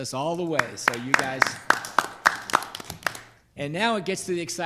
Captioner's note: board members clapping